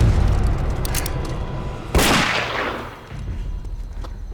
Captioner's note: gun fires; moves into intense dramatic music